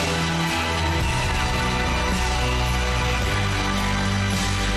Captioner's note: audience cheering